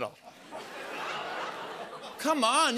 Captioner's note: audience laughs, gasps